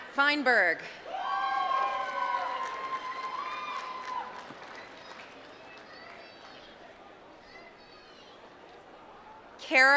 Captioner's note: applause